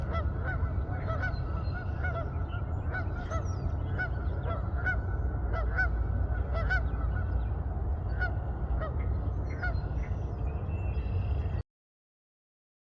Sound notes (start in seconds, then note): 4.0 geese calling in distance